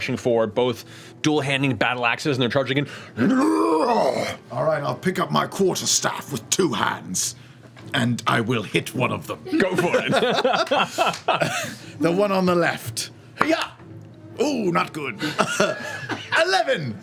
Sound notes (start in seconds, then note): 3.2 guttural shout; 9.5 laughs